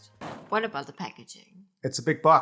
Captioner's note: bang!